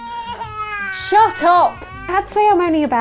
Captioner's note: cry